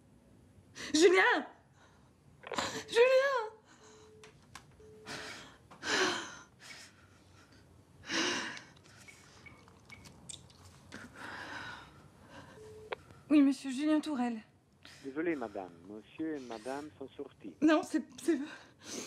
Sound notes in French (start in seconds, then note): 4.7 Elle soupire profondément